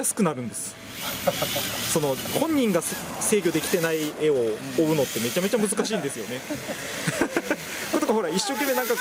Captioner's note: car